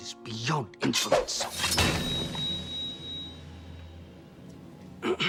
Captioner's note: sword swooshes